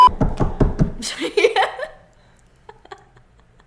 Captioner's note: thumpthumpthumpthump